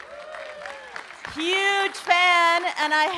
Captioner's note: audience cheering and applauding